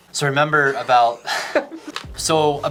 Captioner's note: laughing